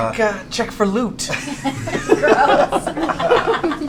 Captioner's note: laughter